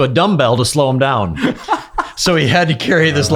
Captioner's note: laughing